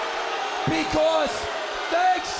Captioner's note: crowd cheering